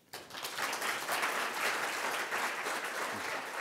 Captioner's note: applause